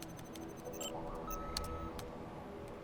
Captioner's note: computer beeps